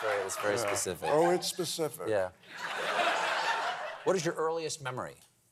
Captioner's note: laughter